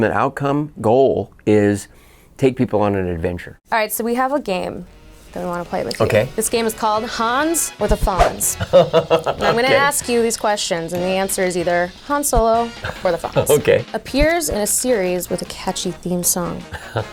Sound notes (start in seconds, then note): 8.2 laughing; 16.4 laughing